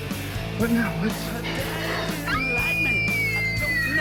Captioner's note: girlfriend screaming